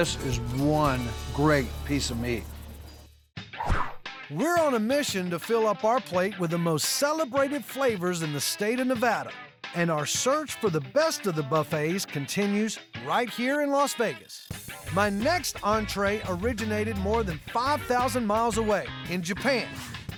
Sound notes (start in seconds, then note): none